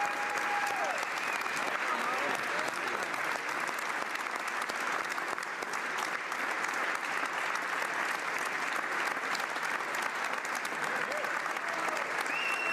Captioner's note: cheering & Applause